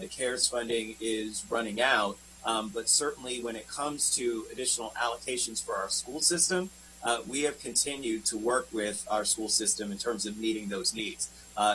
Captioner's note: spanish